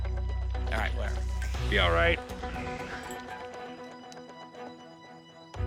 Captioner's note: laughs